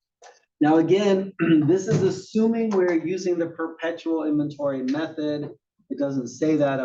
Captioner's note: cough